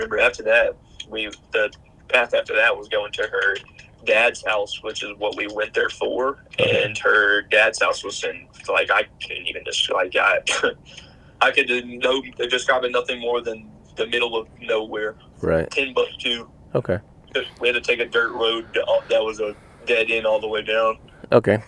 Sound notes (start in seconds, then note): 10.2 chuckles